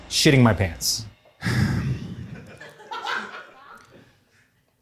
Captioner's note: sighs